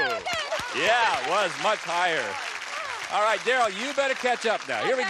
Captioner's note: applause